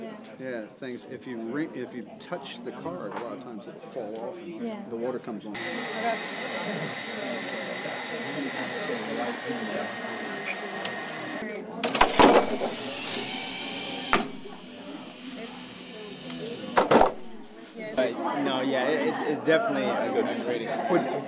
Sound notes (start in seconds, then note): 5.6 robot operating; 8.6 robot arm impacts pole; 11.9 whirring robot climbs pole and descends